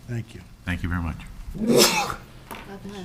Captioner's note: person sneezes